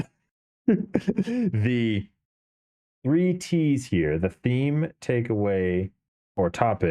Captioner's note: laughs